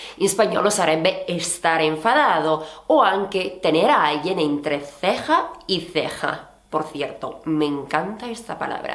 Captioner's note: Spanish